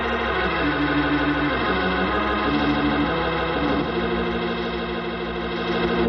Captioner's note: train whistle blowing